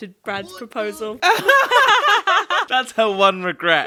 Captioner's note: laughing